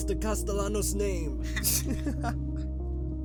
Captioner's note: laughter